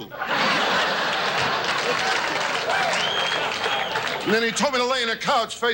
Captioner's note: audience laughs